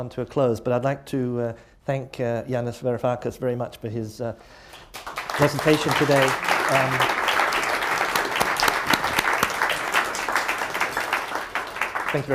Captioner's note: applause